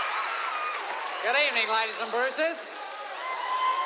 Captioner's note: australian accent